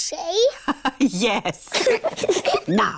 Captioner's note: both giggle; laughs